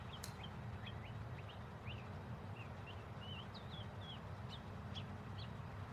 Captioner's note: birds chirping; golf ball thwacking